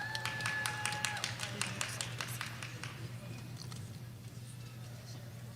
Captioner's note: audience applauding